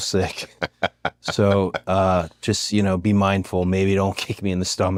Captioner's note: laugh